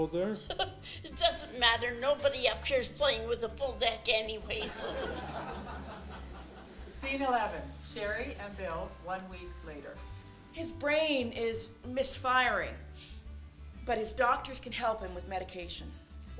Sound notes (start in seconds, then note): 0.4 laughs; 4.6 laughter